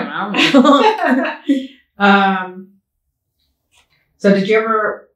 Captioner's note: both laugh